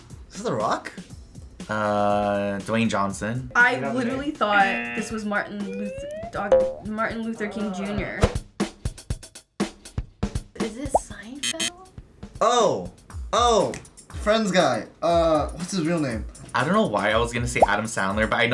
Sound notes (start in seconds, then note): 11.4 buzzer; 12.9 snaps